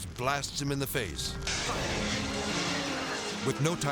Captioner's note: fire extinguisher hissing